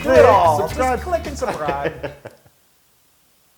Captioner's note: laugh